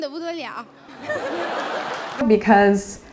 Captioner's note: laughter